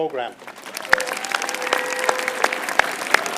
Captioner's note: applause